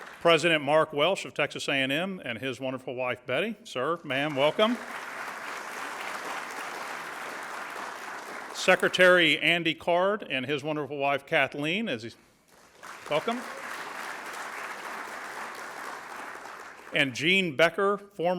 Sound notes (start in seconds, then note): 4.0 audience applauds; 12.5 audience applauds